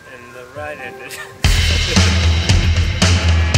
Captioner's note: laughter